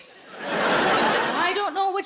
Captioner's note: audience laughing